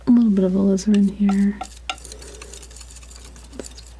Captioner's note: tapping